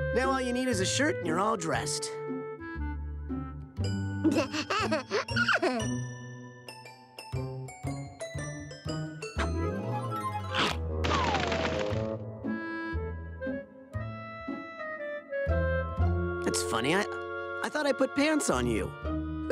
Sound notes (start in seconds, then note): 4.3 laughs